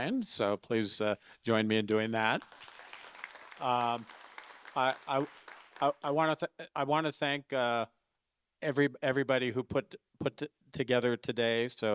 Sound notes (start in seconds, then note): 2.3 audience applauding